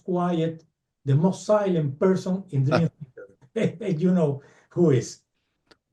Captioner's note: laughs